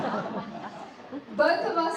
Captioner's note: audience laughing